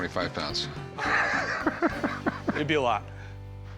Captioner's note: laughs